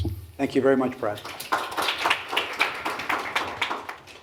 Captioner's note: applause